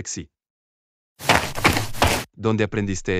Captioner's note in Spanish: FX - Footsteps - On Multiple Dirt - Run